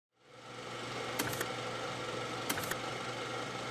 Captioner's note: machine whirring